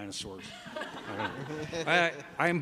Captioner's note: laughter